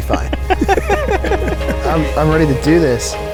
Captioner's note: chuckling